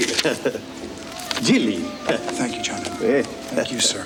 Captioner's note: chuckles